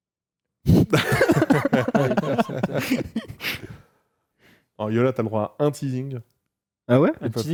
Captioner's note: laughs